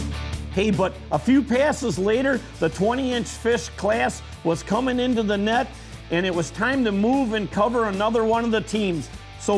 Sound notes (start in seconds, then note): 0.8 voiceover